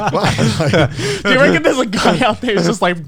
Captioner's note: laughs